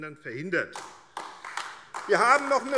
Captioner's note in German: Beifall AfD